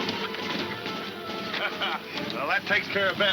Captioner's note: laughing